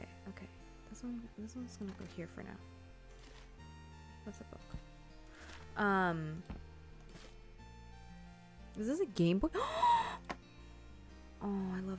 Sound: gasps

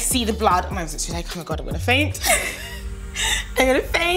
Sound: laughs

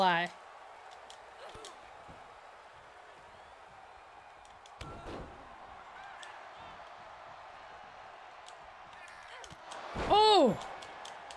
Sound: applause

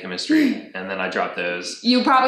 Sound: laughs

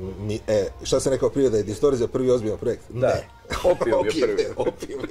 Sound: laughs

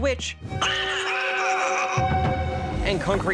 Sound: cackles

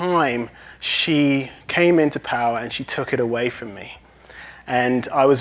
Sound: none

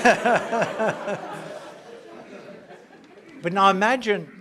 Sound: laugh

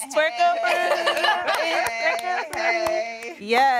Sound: laughter

